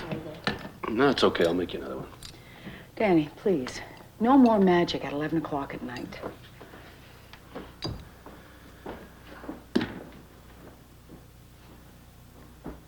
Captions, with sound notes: - Sorry, Dad. - No, it's okay. I'll make you another one. - Danny, please. No more magic at 11 o'clock at night. (mug clinks) (trash can thuds)